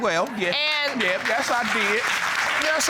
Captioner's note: audience applauding